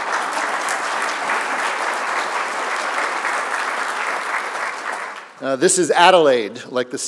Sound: applause

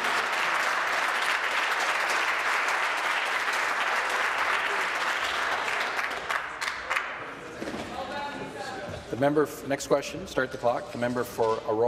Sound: applause

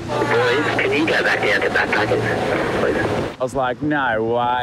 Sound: man on walkie talkie

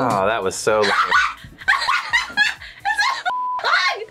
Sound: laughs

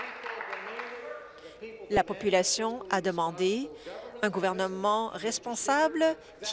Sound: applause

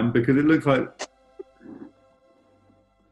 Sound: splutters

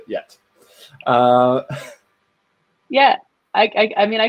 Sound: chuckles

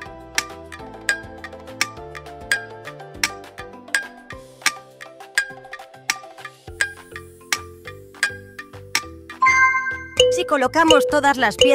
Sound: clock

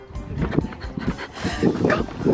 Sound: fast panting

